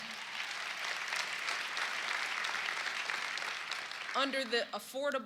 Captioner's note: cheers and applause